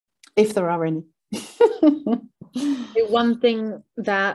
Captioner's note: chuckles